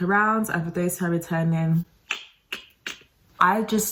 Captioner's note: clicks tongue